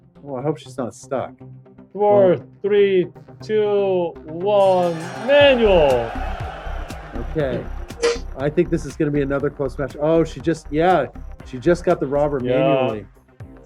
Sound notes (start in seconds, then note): 4.6 bell ringing